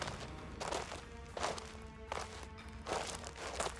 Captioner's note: footsteps